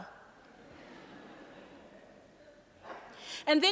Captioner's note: audience laughing